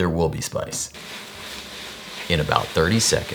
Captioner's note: vegetables sizzling in pot